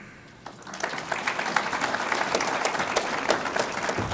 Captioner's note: audience applauds